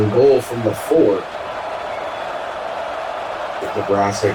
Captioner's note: crowd Noises